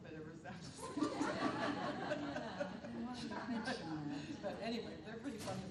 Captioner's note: all laughing